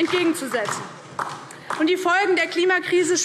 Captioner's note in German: Beifall DIE LINKE